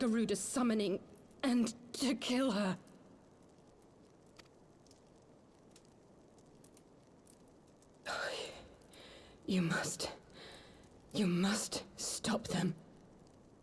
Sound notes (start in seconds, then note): 5.4 sigh